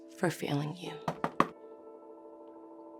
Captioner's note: knock on door